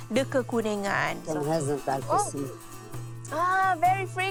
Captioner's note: foreign language